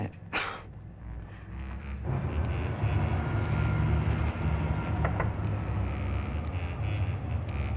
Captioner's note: scoffs